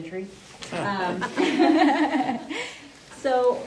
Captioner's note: laughter